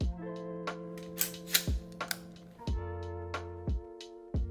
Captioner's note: gun clinks